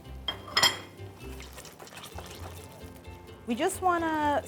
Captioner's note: plate clattering